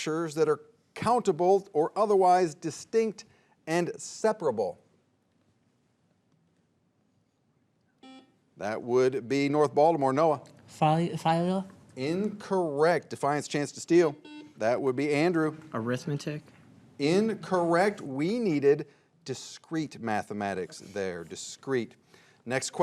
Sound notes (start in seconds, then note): 8.0 buzzer beeping; 14.0 buzzer beeping